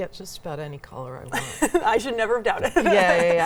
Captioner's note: laughs